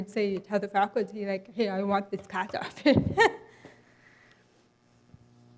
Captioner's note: laughs